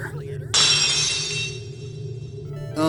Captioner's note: lock shatters!